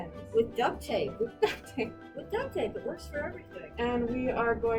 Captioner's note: laughs